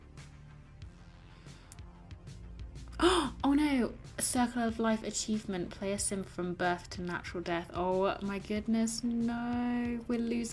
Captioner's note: gasps